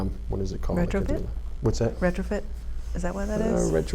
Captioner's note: none